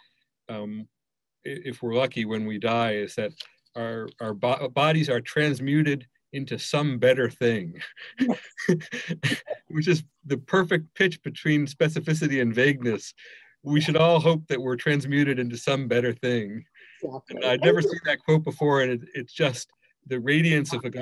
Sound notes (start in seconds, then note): 7.5 laughs